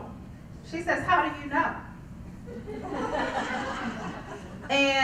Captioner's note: laugh